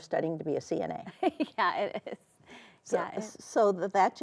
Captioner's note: laughs